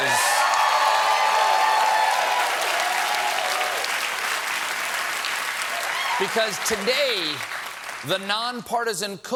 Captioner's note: cheers and applause